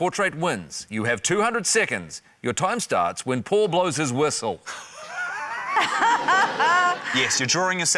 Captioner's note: laughter